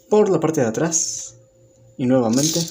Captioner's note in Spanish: Silencio